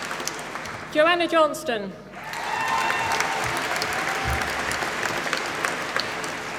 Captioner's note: applause